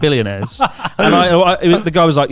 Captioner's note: laughs